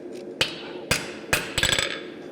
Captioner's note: metallic hammer blows